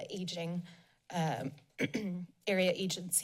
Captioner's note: clears throat